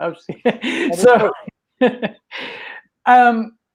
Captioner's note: laughs